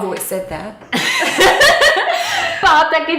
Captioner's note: both laughing